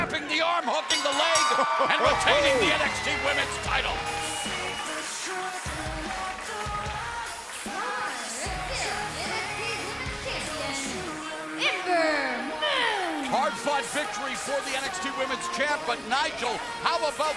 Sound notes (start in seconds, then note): 3.5 bell ringing